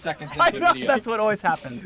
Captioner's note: laughs